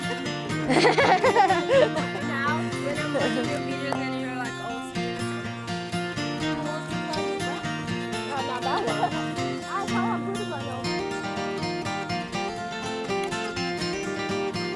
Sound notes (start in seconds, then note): 0.0 guests talking; 0.0 laughs; 7.7 guests talking; 11.5 folk guitar music